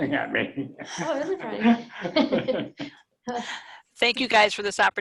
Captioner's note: laughing; laughs